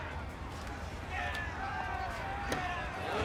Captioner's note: disgruntled crowd shouting